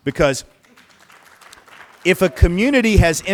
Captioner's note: applause